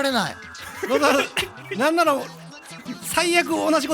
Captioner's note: giggle